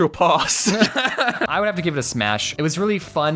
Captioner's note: laughs